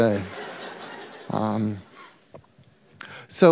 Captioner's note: laughter